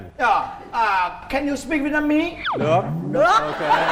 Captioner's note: say in Vietnamese